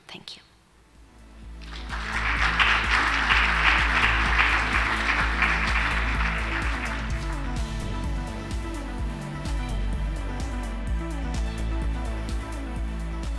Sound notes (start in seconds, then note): 1.6 audience clapping; 1.9 gentle techno music